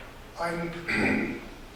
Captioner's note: clears throat